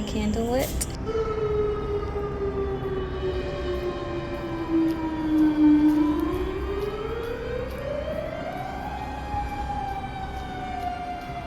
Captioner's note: siren noise